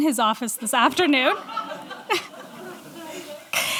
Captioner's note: laughter